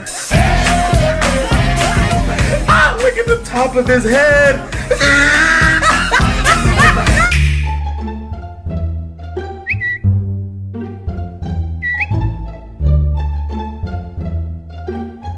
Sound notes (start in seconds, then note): 4.8 laughter?; 9.6 tweet